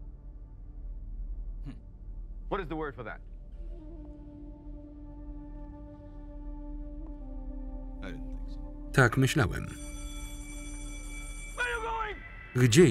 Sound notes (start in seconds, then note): 4.0 mystical music; 9.6 bell rings